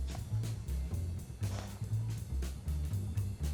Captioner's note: sighs